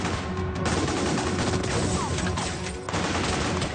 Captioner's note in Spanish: Disparos